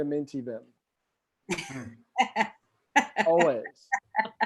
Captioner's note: laughs